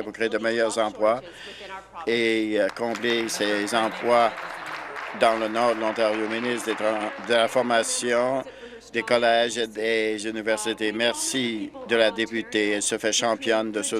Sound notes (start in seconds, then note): 5.5 applause